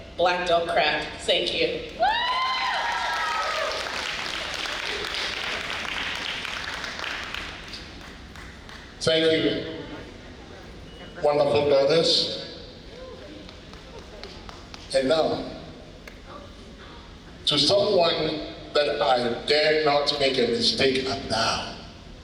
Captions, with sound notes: black don't craft, thank you. (audience cheering) Thank you, wonderful brothers. And now, to someone that I dare not make a mistake of now